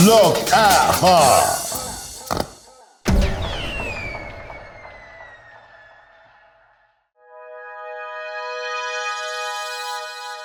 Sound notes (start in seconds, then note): 3.1 fireworks exploding; 7.2 bright music